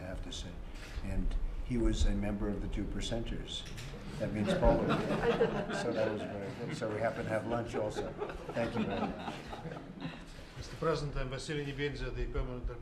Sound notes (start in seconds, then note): 4.3 laughter